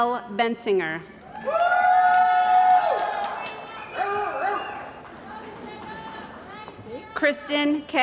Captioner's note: cheering & Applause